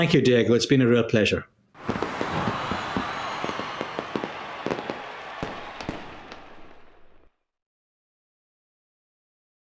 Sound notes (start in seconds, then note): 1.7 cheering; 1.8 fireworks popping